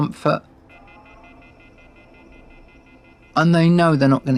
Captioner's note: phone beeping